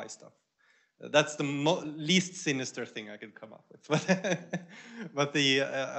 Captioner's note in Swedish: skratt